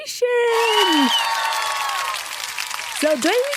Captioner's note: applause